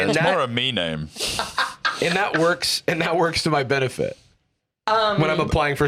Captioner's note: laughs